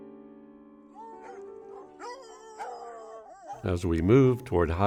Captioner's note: hounds howling